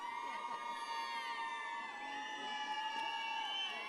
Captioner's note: audience cheers